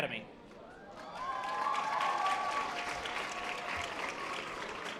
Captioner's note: audience applause